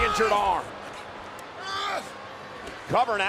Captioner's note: Braun screaming